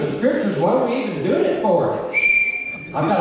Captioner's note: whistle blows